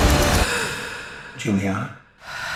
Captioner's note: gasping